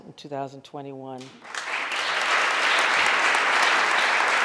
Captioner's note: audience applauding